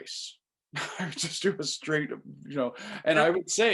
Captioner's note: chuckles